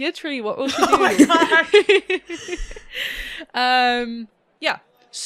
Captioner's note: laughing